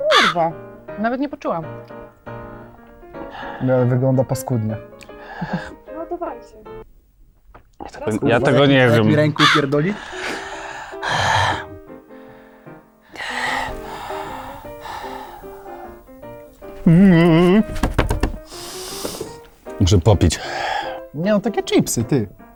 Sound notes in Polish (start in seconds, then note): 16.3 dźwięki obrzydzenia